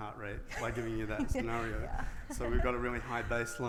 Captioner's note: laughs